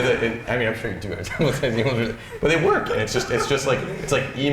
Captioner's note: chuckles